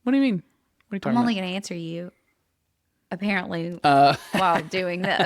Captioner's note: laughs